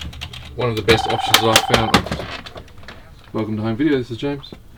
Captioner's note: phone rings